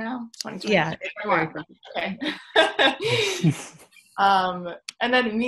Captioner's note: laughing